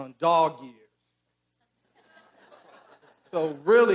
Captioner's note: audience laughing